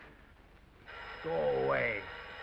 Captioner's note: phone ringing